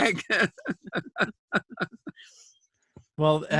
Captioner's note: laughter